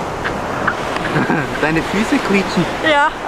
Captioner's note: laughs